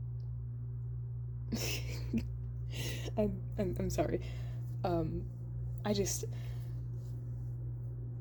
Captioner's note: lightly chuckles